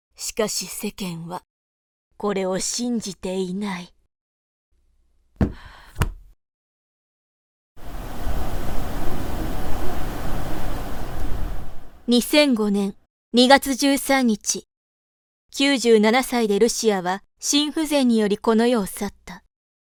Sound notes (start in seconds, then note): 7.8 the sound of the wind